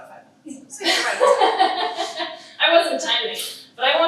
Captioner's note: laughing